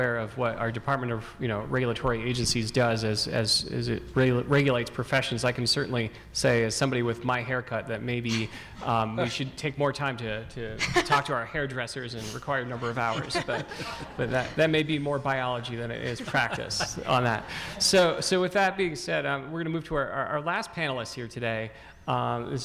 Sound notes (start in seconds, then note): 12.6 audience laughing